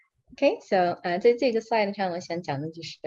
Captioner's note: non-english speech